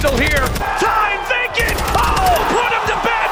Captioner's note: crowd cheering